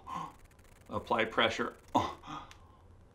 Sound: low gasp

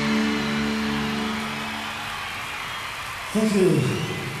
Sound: audience cheers and applauds

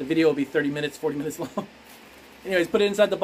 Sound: laughs

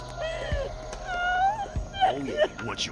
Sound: whimpering

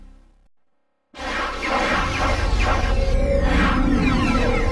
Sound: digitally-generated sounds

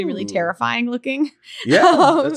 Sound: laughs

